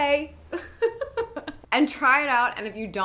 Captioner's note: giggles